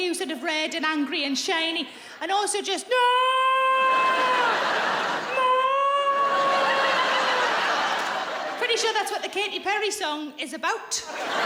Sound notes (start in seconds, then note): 3.4 roaring; 6.1 audience laughs